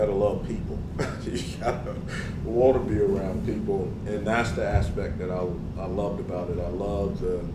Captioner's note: laugh